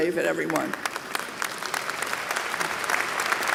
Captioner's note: applause